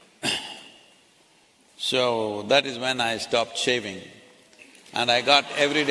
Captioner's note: applause